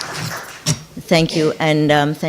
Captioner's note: audience clapping